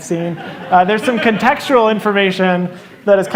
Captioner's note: laughter